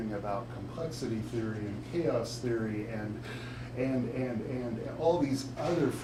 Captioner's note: none